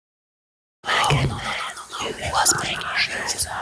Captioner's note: whispers ominously